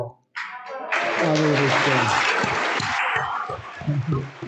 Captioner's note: audience applauds